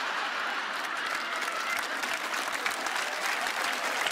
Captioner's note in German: Gelächter; Applaus setzt ein